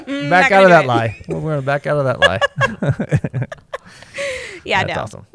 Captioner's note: laughter